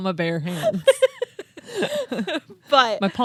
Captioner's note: laughing